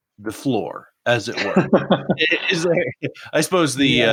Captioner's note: laughing